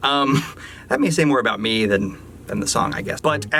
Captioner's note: chuckles